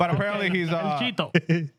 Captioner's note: speaking Spanish